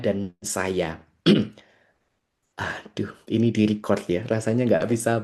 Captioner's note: berdehem